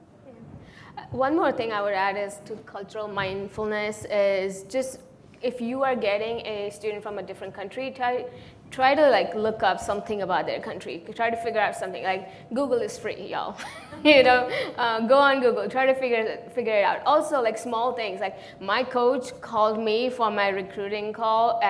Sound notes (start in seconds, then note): 14.5 laughs